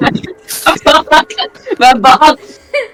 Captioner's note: laughs